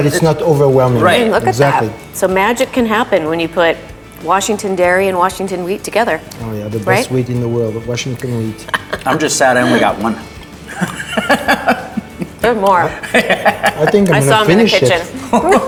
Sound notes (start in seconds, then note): 11.7 laughing; 15.2 all laughing